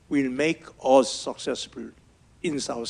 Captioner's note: none